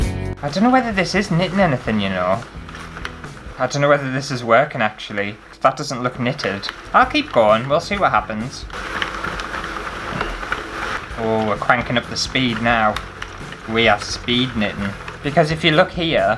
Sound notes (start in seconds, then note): 8.4 handle Cranking